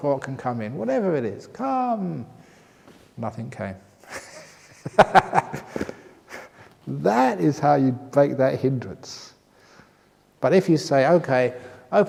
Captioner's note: laughter